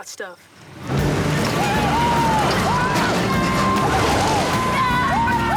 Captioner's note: engine revving, boys cheering